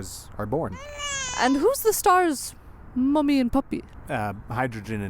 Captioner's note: baby crying